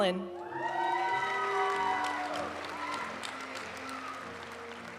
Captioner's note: audience cheering and applauding; graduation music